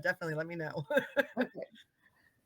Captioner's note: laughing